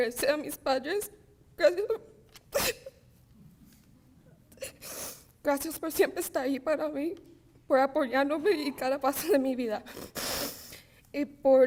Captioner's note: speaking spanish